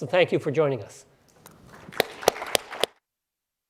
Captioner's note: applause